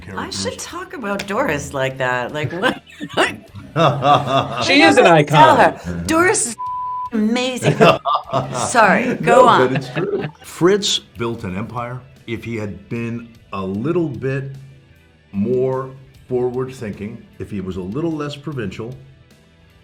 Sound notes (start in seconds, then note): 2.3 all laughing; 6.5 beeps